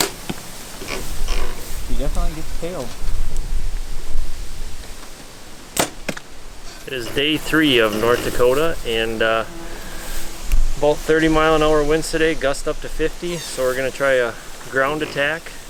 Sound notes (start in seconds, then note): 0.1 arrow flying; 4.6 arrow flying